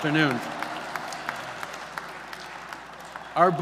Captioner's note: applause